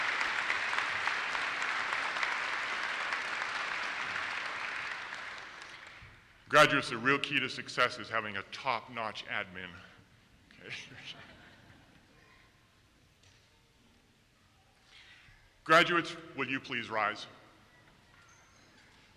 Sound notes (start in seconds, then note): 10.6 laughs; 10.7 audience laughs